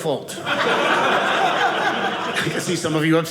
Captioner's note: audience laughing